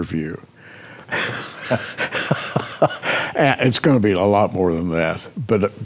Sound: laughter

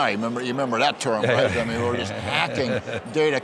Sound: laughs

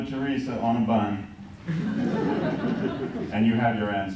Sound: laughter

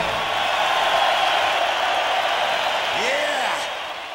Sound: audience cheering

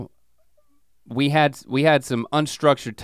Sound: none

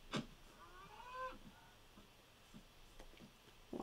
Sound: angry cow noise

